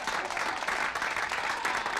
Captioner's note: people cheering